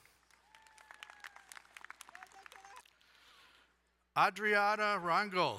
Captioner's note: crowd cheering and applauding